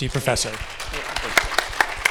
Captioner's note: audience clapping